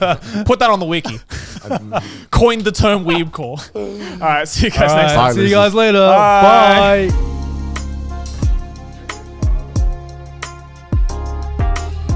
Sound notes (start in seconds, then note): 0.1 laughing; 2.0 laughs; 8.7 rock and roll music